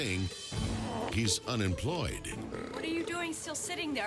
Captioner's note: Hank belches